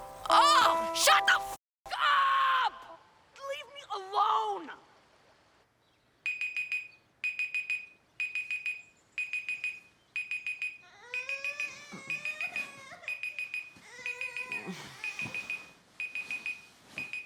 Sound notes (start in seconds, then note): 6.3 alarm ringing; 10.8 Jack crying